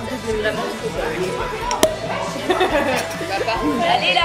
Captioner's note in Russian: хлопок вылетающей пробки